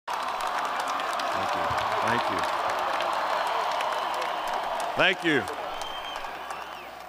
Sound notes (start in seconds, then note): 0.0 cheering